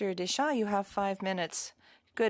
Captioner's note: speaking French